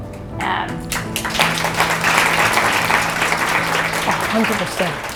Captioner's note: audience applause